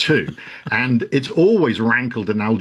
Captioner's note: laughs